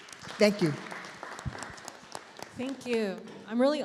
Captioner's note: audience applauding